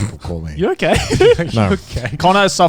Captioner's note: laughing